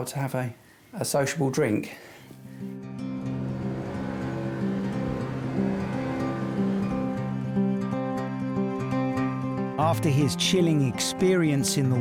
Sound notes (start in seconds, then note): 2.5 lifeboat engine whirring; 2.6 uplifting instrumental music